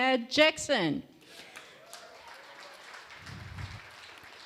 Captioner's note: applause